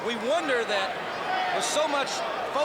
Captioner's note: crowd chatter